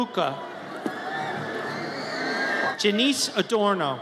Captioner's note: audience cheers